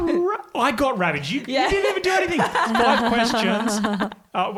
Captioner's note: laughs